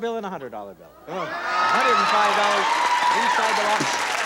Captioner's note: applause